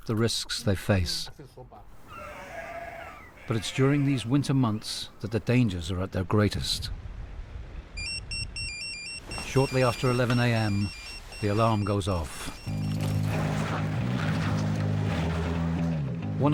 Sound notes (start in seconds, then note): 1.8 birds chirping; 2.0 sheep bleats; 8.0 phone chimes; 12.7 boat droning; 12.7 energetic music